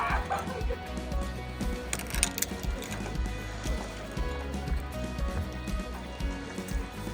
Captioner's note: laughs